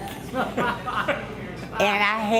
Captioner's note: laughter